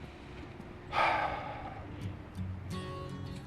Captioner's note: SlGHS